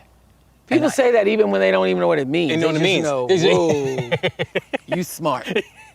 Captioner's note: laughter